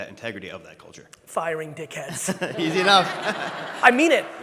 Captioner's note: laughs